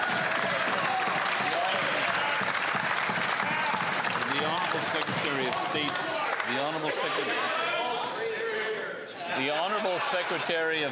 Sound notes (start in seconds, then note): 4.0 some Applause